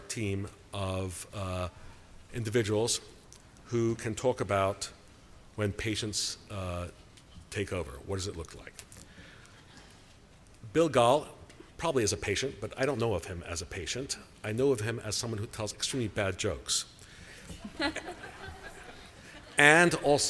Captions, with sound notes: team of individuals who can talk about when patients take over. What does it look like? Bill Gahl probably is a patient, but I don't know of him as a patient. I know of him as someone who tells extremely bad jokes. [LAUGHTER]